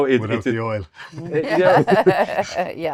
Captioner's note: laughing